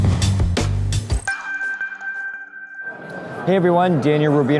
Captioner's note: ding